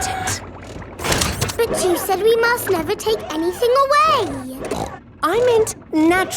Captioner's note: snorts